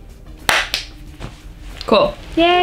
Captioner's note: clap